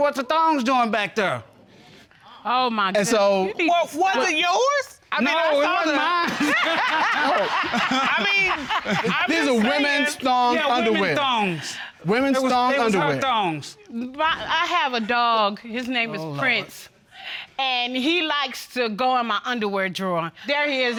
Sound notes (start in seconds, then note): 6.1 all laughing